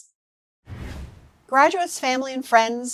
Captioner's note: air whooshing